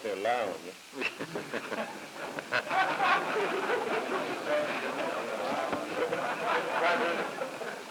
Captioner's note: laughter